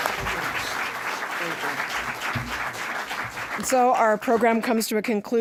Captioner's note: applause